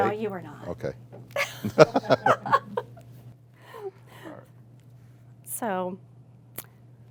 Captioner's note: laugh